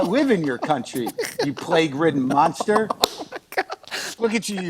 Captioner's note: laughter